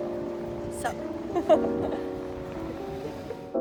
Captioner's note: laughs